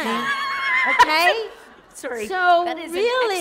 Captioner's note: laughter